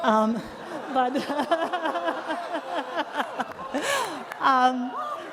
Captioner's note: laughs